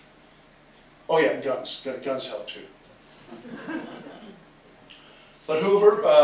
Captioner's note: laughter